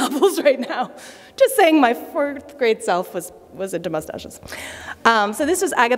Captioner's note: laughter